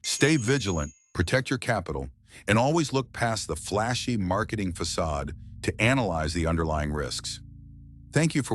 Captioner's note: SFX: subtle chime